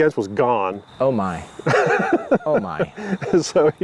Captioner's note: laughs